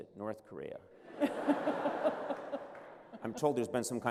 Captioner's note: laughter